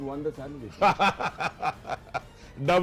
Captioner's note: laughing